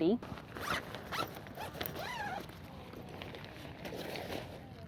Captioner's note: bag zipping